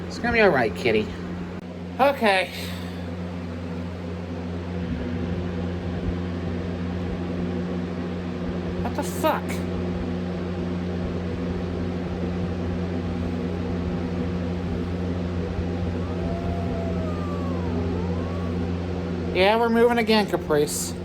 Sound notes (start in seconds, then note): 9.7 Caprice growls